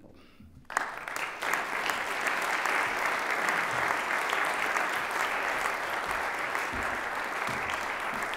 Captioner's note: applause